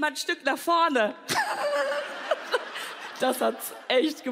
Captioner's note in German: Sie kichert schelmisch